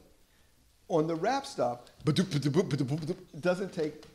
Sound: beatboxing

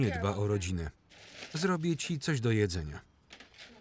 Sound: paper crinkling

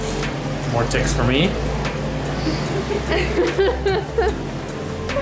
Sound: laughter

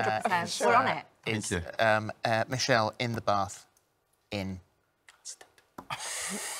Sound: whispers; laughter

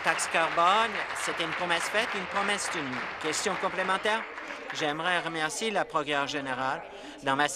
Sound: applause

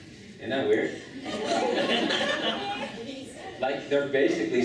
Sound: laughing

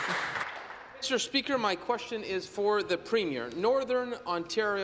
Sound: some Applause

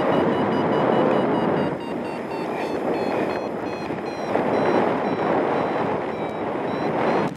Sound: alarm slows; wire reeling; alarm accelerates; wind whooshing

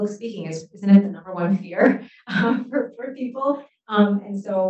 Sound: chuckles

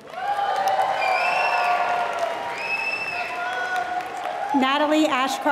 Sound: applause

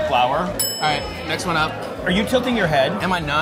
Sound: bell dings

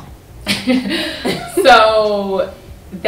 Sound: laughter

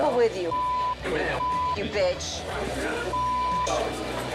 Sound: beep; beep

